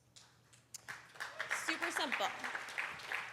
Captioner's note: applause